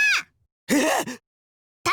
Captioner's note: gasp